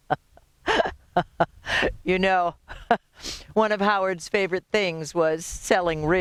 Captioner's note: laughs